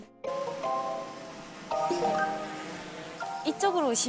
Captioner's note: hesitates